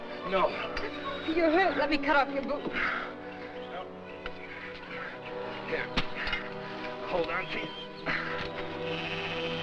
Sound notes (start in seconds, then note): 2.8 panting